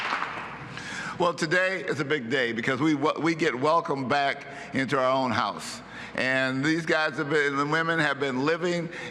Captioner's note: applause